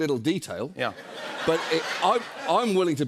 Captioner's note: laughter